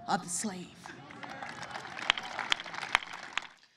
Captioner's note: applause